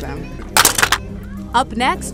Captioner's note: toys clattering